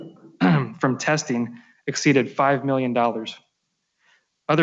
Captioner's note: clears throat